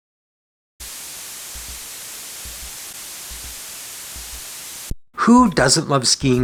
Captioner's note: water flowing